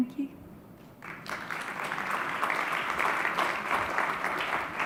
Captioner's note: audience applauds